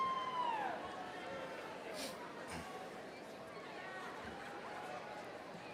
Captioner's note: overlapping chatter